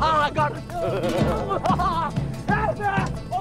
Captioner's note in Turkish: Gülme sesleri